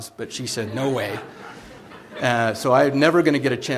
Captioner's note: laughter